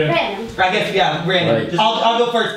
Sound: voiceover

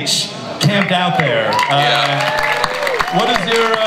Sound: everyone applauds and cheers

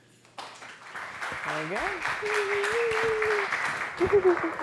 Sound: applause

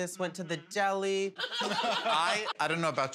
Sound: laughter

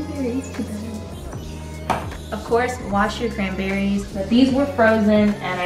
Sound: fridge closes

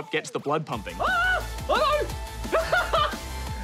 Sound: shrieks; laughs

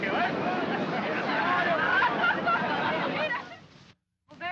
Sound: all laugh

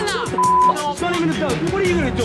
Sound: beep

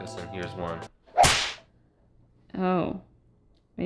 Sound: loud snap

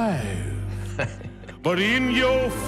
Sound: Prince Naveen laughing

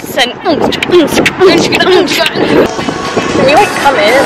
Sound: makes sound of beats

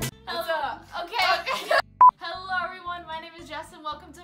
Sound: giggles

